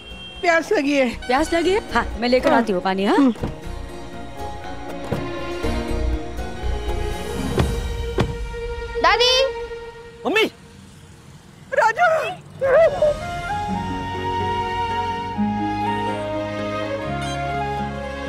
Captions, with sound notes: - I'm thirsty. - Are you thirsty? I'll go and bring water for you. [moody music] [car door closing] - Grandma! - Mom! - Raju! - Grandma! [happy music]